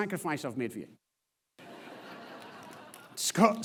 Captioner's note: audience laughs